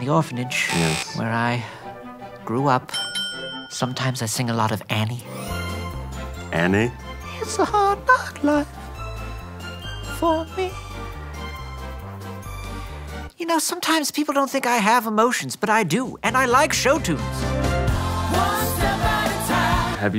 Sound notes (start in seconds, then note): 0.8 buzz; 2.9 ding ding; 7.8 singing quietly; 17.8 choir sings